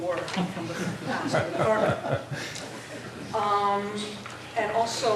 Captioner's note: laughter